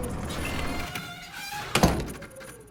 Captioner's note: door creaks